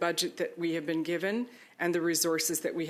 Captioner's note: speaking French